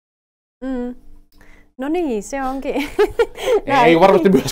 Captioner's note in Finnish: naurahtaa